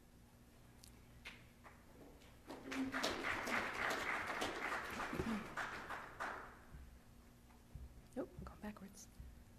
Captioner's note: applause